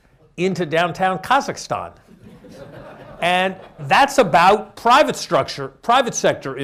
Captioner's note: laughter